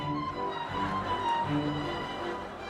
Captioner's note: people chattering